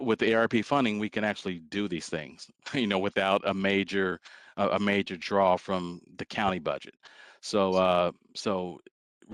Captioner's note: laughter